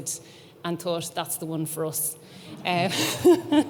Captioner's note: chuckles